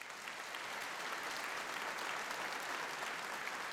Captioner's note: applause